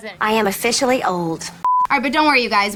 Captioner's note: beep